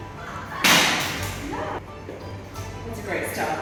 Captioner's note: object crashing